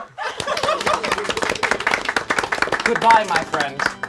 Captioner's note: all applaud